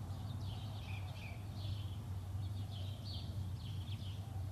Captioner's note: birds chirping